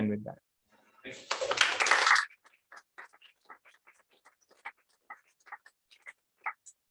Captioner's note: applause